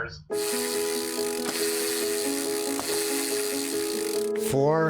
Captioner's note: soft gentle music; bicycle chain whirring